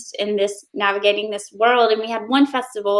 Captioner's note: none